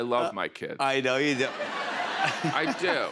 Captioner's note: laughter